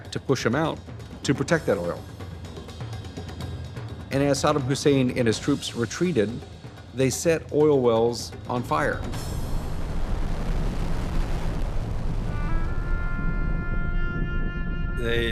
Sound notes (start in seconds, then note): 8.7 fire roaring; 12.3 somber music